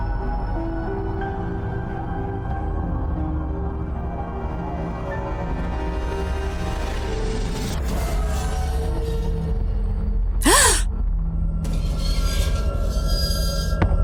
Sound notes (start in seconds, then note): 10.4 Akari gasping